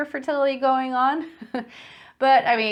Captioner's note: chuckling